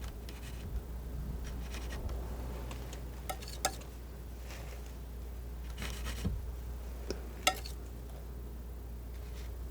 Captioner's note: scratching